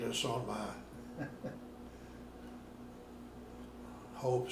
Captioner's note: laughing